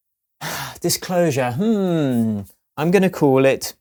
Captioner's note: sighs